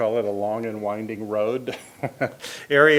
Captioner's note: chuckles